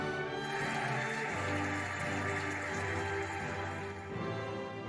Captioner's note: cheering and applauding